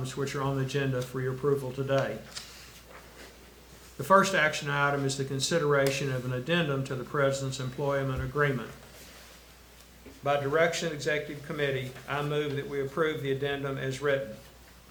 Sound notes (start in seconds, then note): none